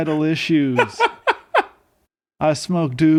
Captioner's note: laughing